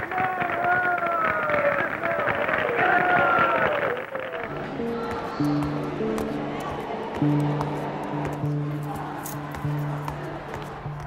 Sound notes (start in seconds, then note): 0.0 applause; 4.3 clamoring